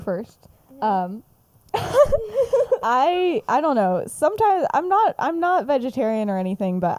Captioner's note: laughs